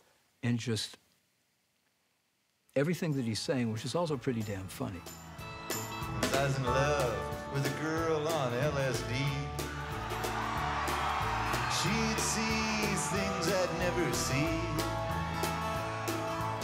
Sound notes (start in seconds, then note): 9.3 audience cheers